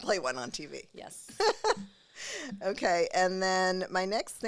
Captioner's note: laughing